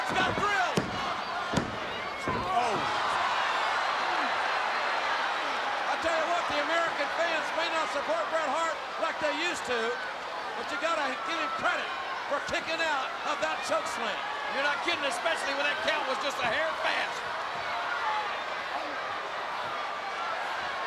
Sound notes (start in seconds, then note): 0.0 hand pounding; 4.1 crowd exclaiming